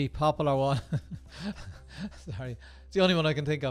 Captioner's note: laughing